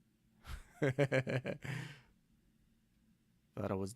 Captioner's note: laughing